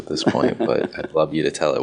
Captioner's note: chuckles